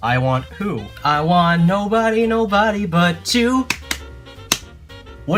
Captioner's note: clap clap point clap